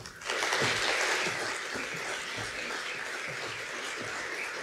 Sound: audience applauds

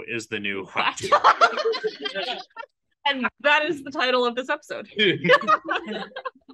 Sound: laughs

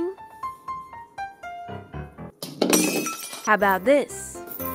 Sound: crash

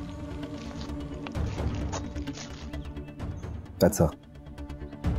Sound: none

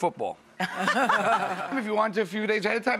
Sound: laughs

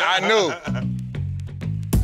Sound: laughter

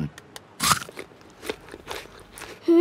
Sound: crunches

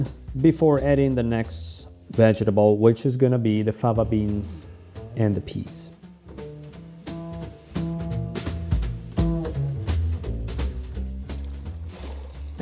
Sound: italian

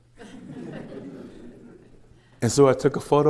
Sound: laughter

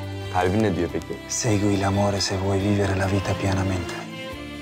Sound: speaks Italian

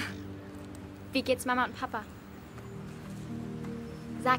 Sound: in German

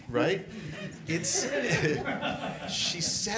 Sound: all laughing

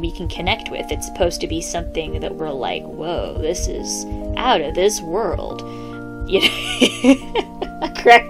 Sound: laughter

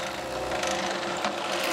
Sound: drilling noises

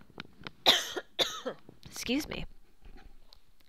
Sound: coughs

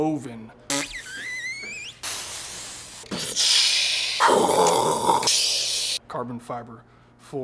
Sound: whistle and whoops

